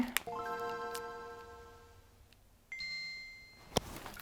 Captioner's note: Pokemon game start-up sound